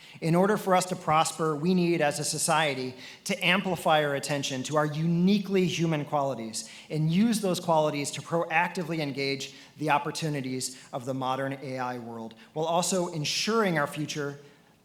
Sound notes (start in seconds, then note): none